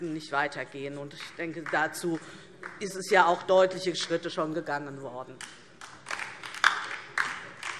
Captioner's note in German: Beifall DIE LINKE und vereinzelt SPD